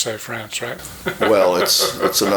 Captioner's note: chuckling